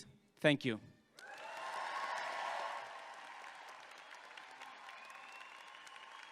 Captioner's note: audience clapping and cheering